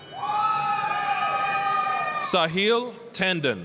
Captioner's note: applause, cheering